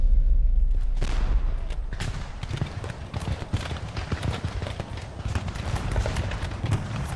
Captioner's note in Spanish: Disparos